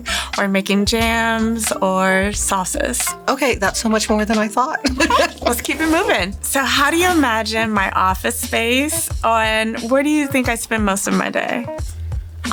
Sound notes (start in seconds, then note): 4.7 laughs